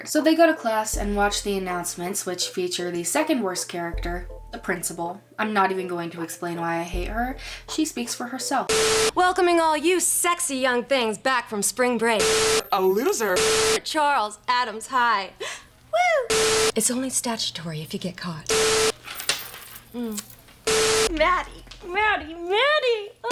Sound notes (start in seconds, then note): 18.3 smooch Noise